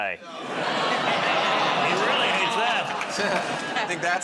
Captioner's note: audience "Aw"s